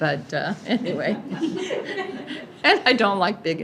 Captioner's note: laughs